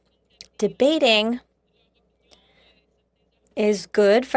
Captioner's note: speaking French